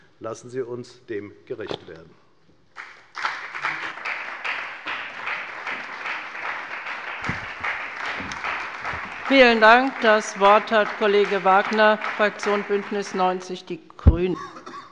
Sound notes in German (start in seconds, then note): 2.8 Beifall bei der FDP und bei Abgeordneten der CDU